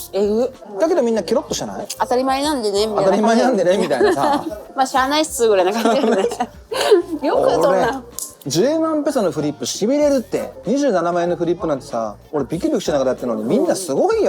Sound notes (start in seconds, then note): 3.2 laughs